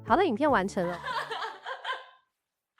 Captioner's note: laughing